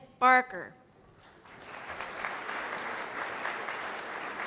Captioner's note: applause